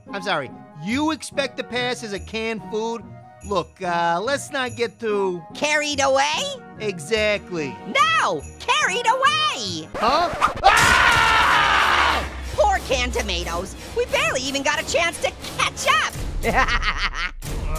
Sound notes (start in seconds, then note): 10.3 Canned Tomatoes screams; 16.4 laughs